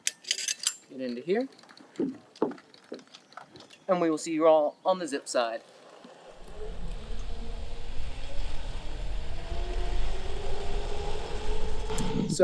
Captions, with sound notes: get into here and we will see you all on the zip side. (whirring)